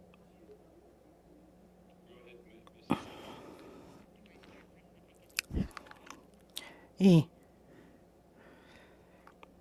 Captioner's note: speaking Alternate Language